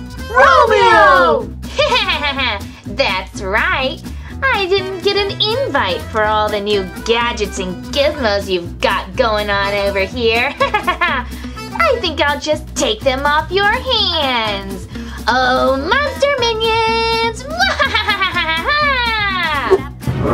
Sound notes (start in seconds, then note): 1.7 laughs; 10.5 laughs; 17.6 laughs evilly; 20.1 monsters groan and growl